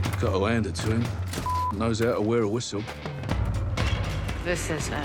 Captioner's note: beeping